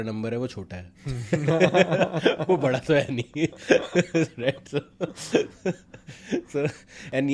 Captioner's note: laughs